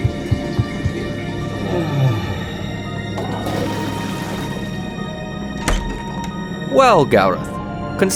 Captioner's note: light running footsteps, flushing, door opens, footsteps